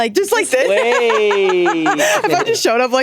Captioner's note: all laughing